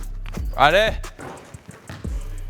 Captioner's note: in Turkish